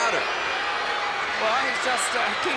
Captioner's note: audience cheering